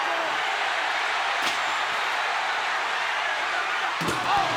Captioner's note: audience cheering